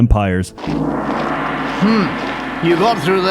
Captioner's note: gong ringing